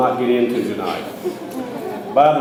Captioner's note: audience chuckles